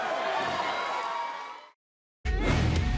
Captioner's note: cheers & applause